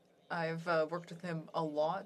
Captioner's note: speaking French